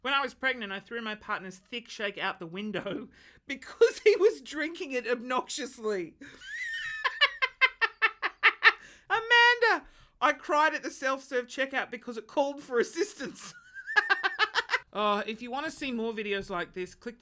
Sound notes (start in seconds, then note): 6.4 laughs; 13.6 laughs